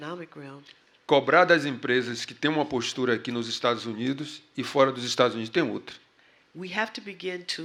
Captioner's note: speaking portuguese